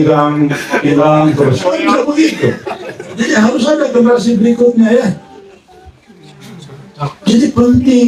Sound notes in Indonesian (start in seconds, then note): 3.3 tertawa